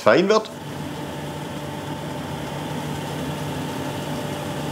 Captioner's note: whirring